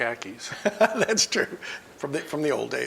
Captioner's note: laughs